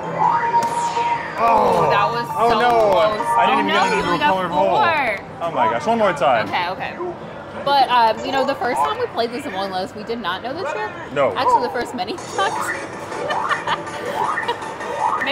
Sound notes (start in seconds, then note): 1.3 both groan; 12.2 laughs